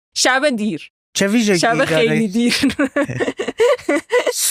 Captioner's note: laughs